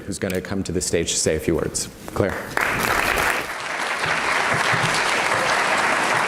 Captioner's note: audience applauds